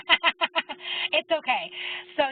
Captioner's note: laugh